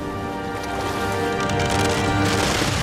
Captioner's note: ice Crackles; waves Crash